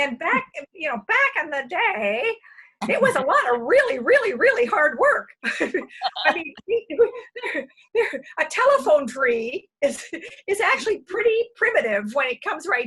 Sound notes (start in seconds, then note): 5.4 laughter